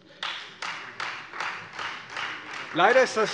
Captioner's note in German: Beifall Freie Demokraten